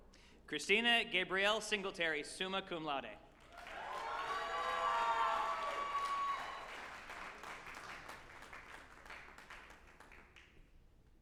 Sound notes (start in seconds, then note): 3.4 group applauding and cheering